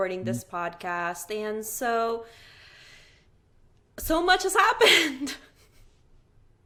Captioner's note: chuckling